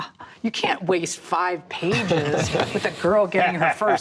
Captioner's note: men laughing